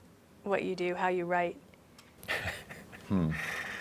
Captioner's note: laughing